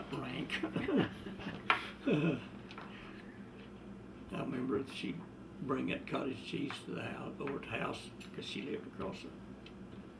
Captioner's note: laughter